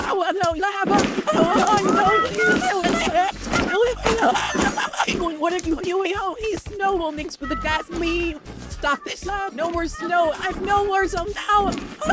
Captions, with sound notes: Hoi hoi! *Laughing of enjoyment* Bubble, Match, Ruby, and Book: *screaming of enjoyment* People, what are you doing? The snow will mix with the gasoline! Stop this, no more SNOW! NO MORE SNOW!!!!!!